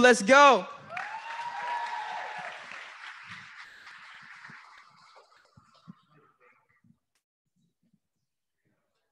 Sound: applause

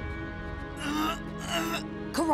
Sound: groaning

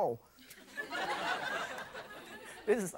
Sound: audience laughs

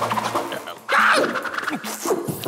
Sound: screams

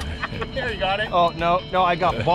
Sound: laughing

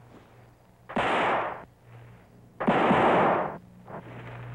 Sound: gunfire pops

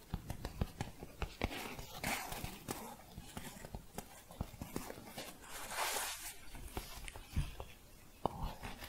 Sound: scratching and tapping

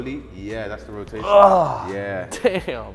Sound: grunts

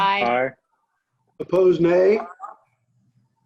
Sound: silence

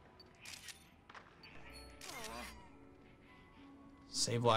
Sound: photo snapping

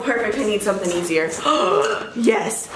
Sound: gasps

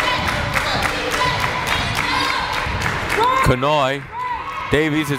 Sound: crowd chanting defense

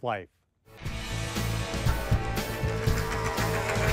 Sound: engine roaring

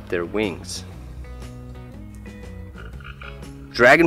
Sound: frog croaking

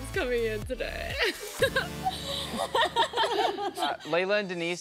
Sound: laughter

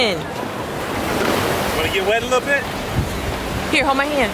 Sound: waves crashing

